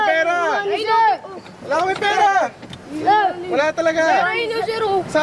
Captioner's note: speaking in a foreign language